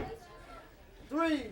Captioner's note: crowd chatter